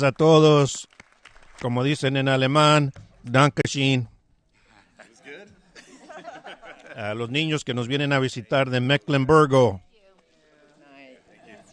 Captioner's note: applause